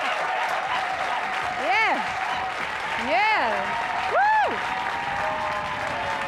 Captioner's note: applause cont